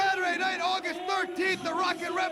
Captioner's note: crowd chatter